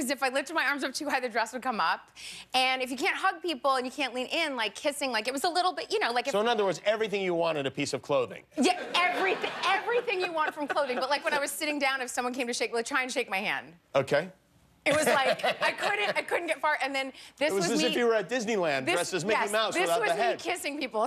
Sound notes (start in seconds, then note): 14.9 laughter